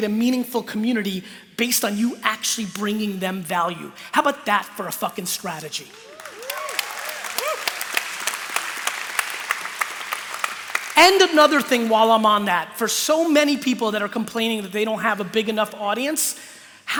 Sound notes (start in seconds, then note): 5.9 cheering; 8.0 applause